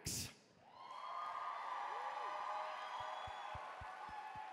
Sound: cheering

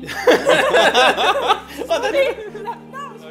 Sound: laughter

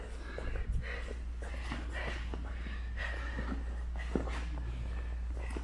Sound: fighters panting

